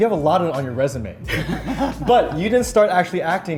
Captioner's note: laughs